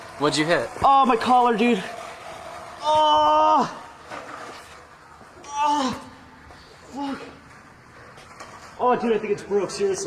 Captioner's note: shouting in pain